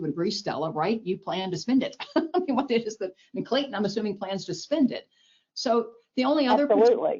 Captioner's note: laughs